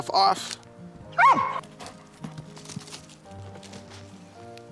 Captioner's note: barking